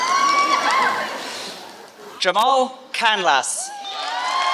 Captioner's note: applause